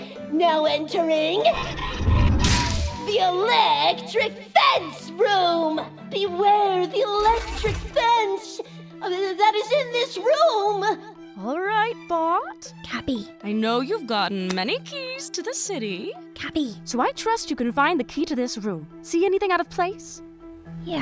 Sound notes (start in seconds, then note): 12.7 whispering; 16.2 whispering